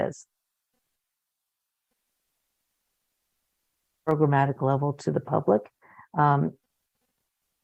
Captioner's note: muted